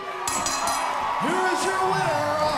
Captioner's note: bell ringing; crowd cheering